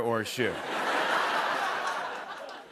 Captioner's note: laughter